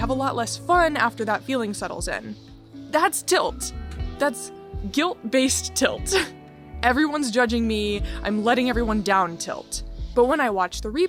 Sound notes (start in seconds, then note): none